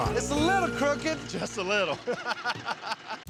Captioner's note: laughter